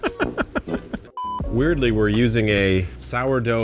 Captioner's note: laughs; beep